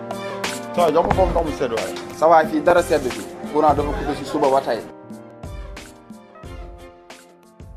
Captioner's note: non-english speech